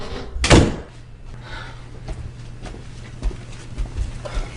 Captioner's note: door slamming